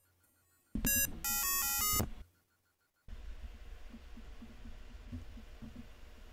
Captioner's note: beeping